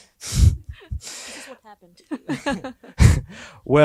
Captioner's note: laughs